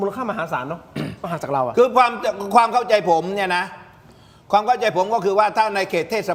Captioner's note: clears throat